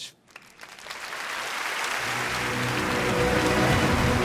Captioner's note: applause